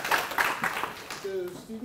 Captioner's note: applause